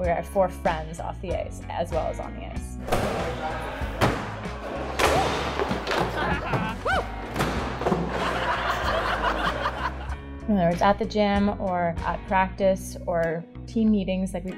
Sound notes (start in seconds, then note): 3.9 axes hitting targets; 7.9 laughter